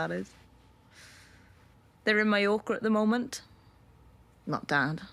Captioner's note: she inhales